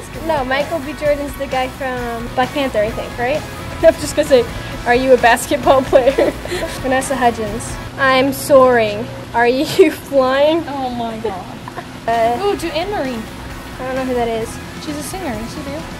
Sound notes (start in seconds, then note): 5.4 laughs; 11.0 laughing